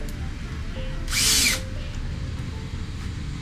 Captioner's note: drilling